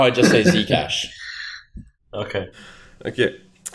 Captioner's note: chuckles